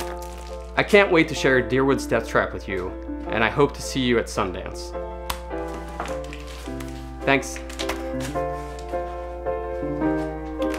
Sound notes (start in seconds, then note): 5.4 smacking sound; 8.3 piano music playing